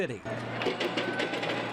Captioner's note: warehouse noise